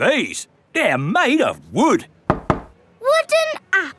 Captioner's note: knocks